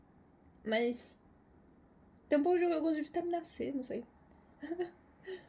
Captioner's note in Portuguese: risos